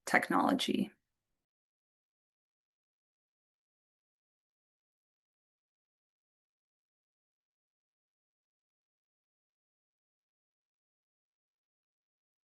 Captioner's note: silence